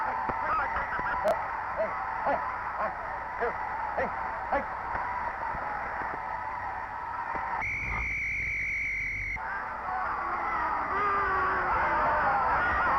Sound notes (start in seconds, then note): 1.8 grunting; 7.6 referee whistling; 10.3 crowd booing